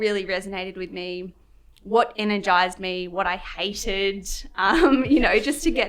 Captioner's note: laughs